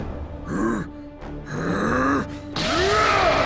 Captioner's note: growling